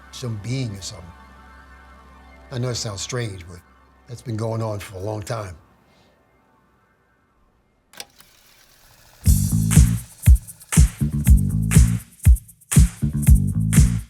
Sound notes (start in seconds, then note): 7.9 click; 7.9 reels turning